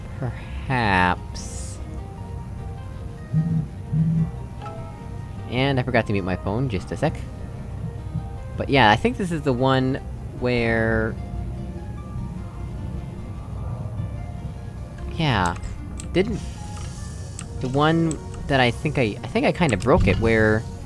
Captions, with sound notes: Perhaps... (buzz, buzz, Hangouts message sound) And I forgot to mute my phone, just a sec. But yeah, I think this is the one... where... Yeah... didn't... The one that I think I... I think I kinda broke it, where...